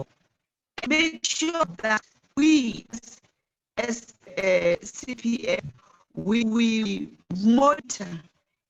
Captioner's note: distorted audio